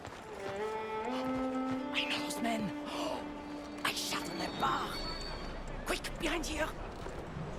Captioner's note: whispers